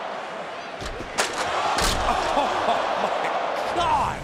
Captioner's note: crowd jeering